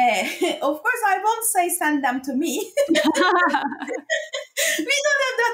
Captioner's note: laughs